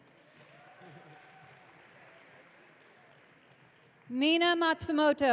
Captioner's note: audience cheering